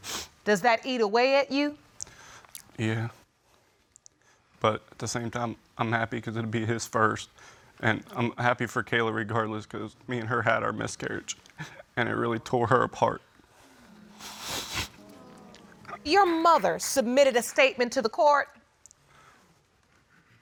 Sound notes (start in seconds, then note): 13.6 sniffles